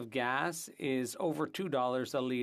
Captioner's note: speaking French